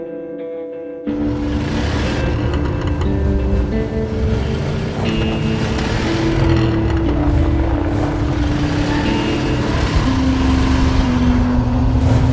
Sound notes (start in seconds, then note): 1.6 engines rumbling